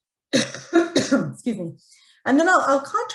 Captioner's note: coughs